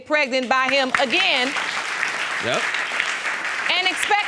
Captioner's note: audience clapping